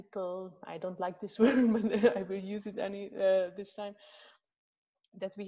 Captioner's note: laughs